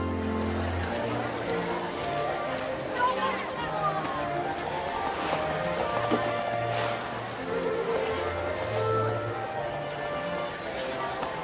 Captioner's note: crowd chatter